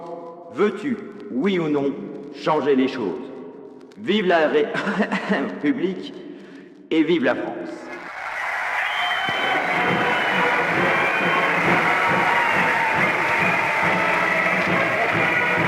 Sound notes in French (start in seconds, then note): 4.6 tousse; 7.9 applaudissements